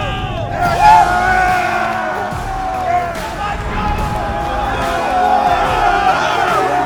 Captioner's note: cheering; yelling; upbeat rock music continues